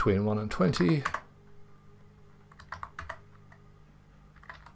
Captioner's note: keyboard typing